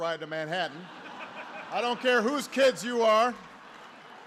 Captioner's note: laughter